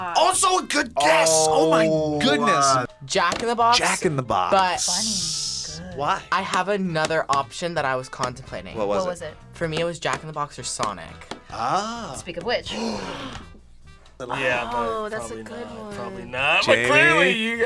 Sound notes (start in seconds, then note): 12.6 both gasp